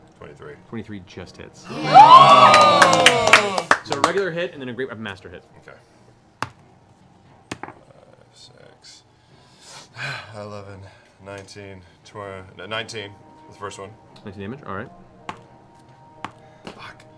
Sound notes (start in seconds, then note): 1.6 cheering